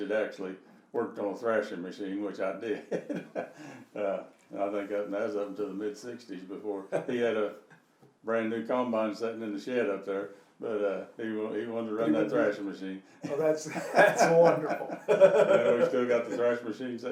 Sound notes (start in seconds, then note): 2.7 laughing; 14.9 laughing